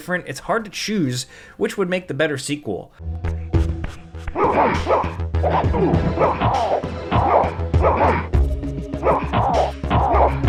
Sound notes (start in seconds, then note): 3.3 tense pulsing music; 3.6 blows thudding; 4.2 both grunting